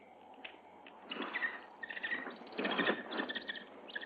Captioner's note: bird chirping